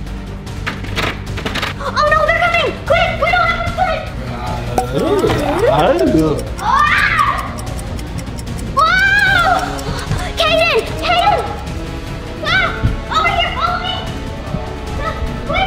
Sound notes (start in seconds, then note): 0.9 door opens; 5.0 both growling; 5.8 clock ticking; 12.1 epic music